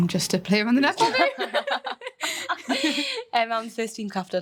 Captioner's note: all laughing